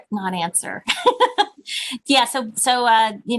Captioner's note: laughing